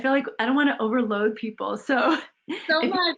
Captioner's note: chuckles